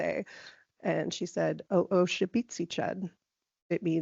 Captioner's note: speaking in Lushootseed